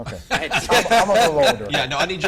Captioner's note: laughs